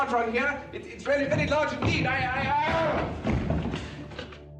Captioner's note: screams